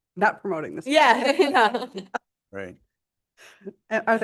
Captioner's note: laughter